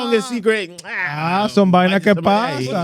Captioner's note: speaking In Foreign Language